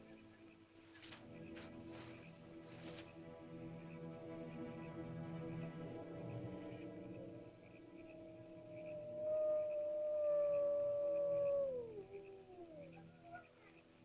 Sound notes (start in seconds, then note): 0.1 ominous music; 7.7 animal howls; 7.9 ominous music